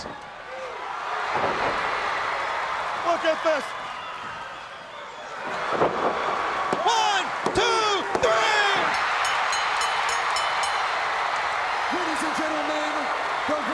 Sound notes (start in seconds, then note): 0.2 crowd cheering; 8.9 bell ringing; 10.1 crowd cheering